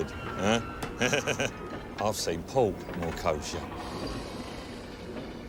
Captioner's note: laughs